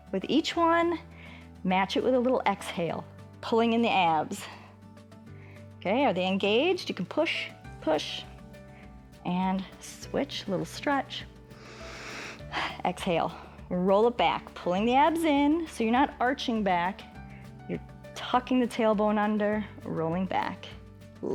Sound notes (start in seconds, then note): 11.5 inhales and exhales